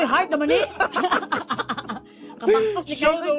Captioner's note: both chuckling